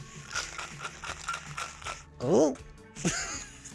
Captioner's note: drink rattling